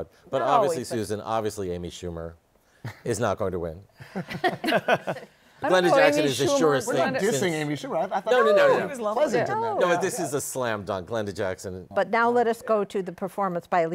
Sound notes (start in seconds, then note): 4.0 laughter